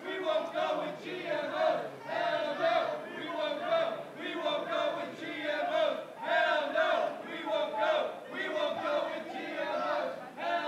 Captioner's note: protestors chanting